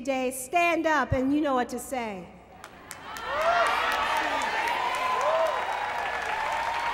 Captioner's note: applause